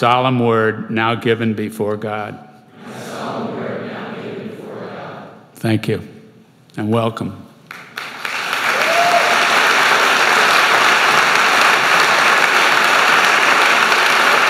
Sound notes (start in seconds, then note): 2.7 crowd; 7.6 applause